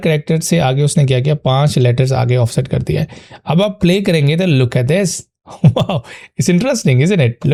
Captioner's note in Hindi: हंसी